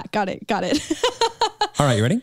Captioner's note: chuckles